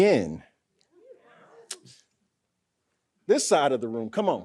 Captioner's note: audience muttering